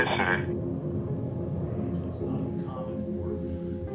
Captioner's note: speaks faintly